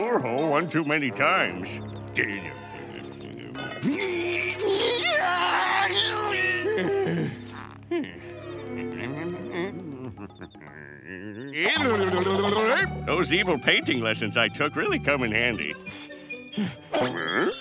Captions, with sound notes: one too many times. [grumbling] [grunting] Those evil painting lessons I took really come in handy. Huh?